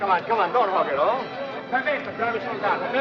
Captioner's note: speaks in italian